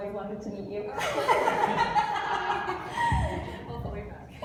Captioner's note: laughs